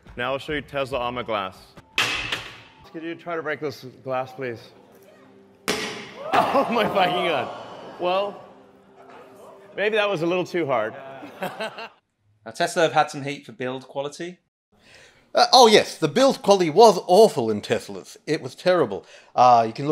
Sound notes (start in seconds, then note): 2.0 ball bangs on glass; 5.7 ball bangs on glass; 11.1 man laughs